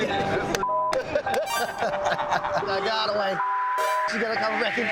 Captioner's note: kitty claps